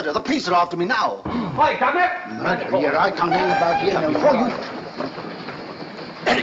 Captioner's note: crowd banter